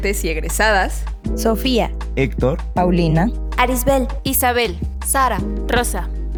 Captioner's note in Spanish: Varias voces